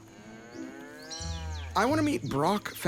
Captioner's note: cow moos